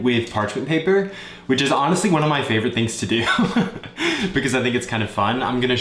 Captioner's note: laughs